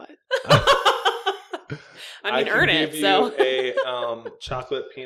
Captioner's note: maniacle laughing